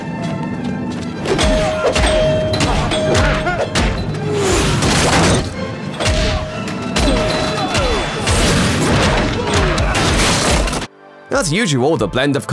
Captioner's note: pinball machine noises